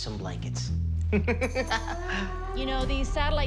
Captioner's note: laughs